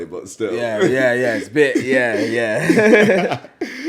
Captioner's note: laughs